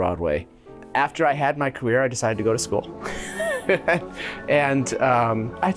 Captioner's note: he laughs